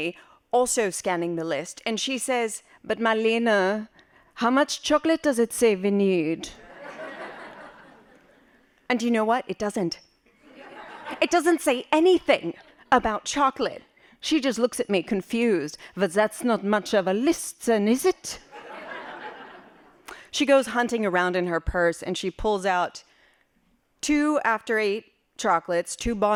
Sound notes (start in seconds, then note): 9.6 laughing; 19.6 laughing